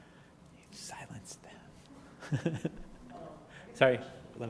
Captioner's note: laugh